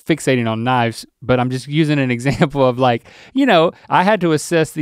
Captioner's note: chuckles